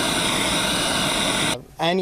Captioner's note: nats of student working on sink